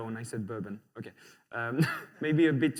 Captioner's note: laughter